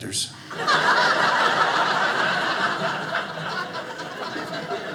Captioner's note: audience laughing